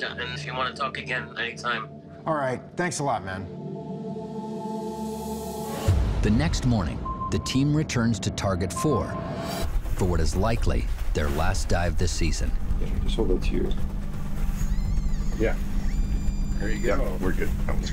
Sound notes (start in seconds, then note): 14.5 metal detector squealing